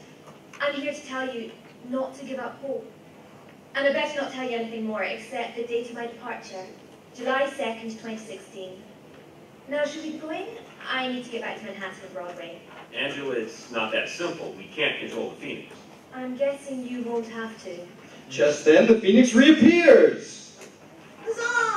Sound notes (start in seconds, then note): none